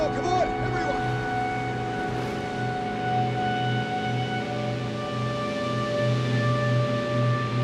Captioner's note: pensive music; water sloshing